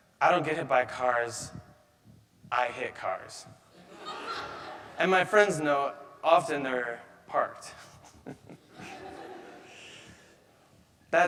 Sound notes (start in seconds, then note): 3.8 audience laughing; 7.8 chuckles; 8.0 audience laughing